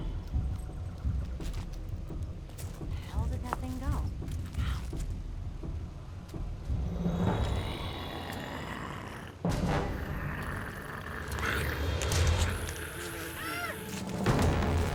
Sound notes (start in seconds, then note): 6.9 growling; 12.4 yelping